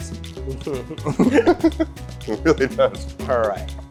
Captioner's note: both laugh